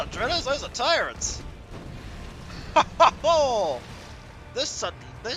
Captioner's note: chuckling